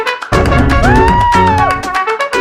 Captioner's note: woohs